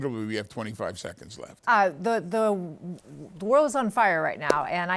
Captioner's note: claps